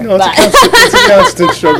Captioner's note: laughter